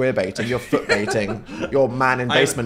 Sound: laughs

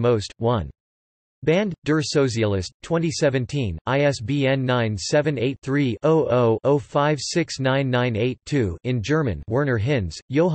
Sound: in German

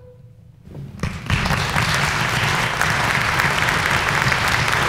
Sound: clapping

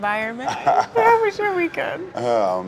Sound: chuckles

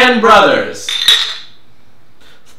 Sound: glasses clink

